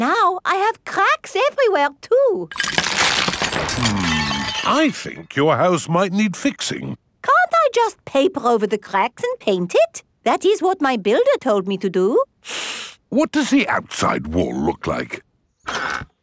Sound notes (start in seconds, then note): 2.5 cracking; 12.4 inhales sharply